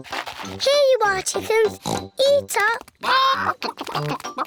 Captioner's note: oinks